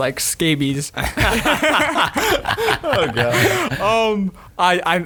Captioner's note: all laughing